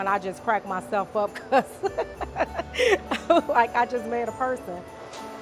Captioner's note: laughs